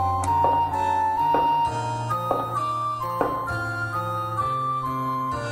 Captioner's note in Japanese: 足音：コツコツコツ･･･